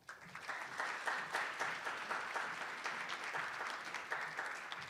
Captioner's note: attendees applauding